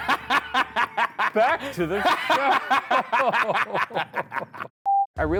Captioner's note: laughing menacingly; laughing